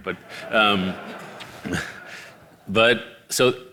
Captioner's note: audience laughing